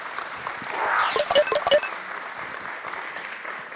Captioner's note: applause